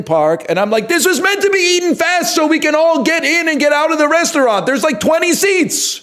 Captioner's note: influencer-voice; shouting